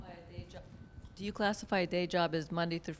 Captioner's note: voiceover